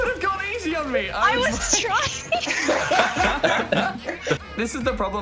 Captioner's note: laughs